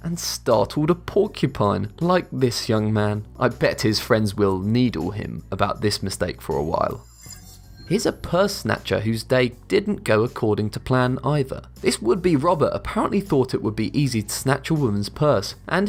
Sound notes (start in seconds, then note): 7.0 futuristic ringing